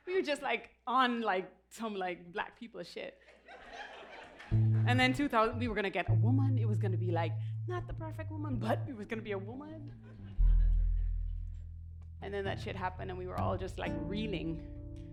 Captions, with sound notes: We were just like, on like, some like, black people shit. And then, 2000 – we were gonna get a woman. It was gonna be like, not the perfect woman but it was gonna be a woman. [Laughter] And then, that shit happened, and we were all just like, reeling.